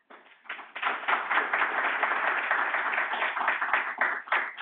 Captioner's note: audience applauding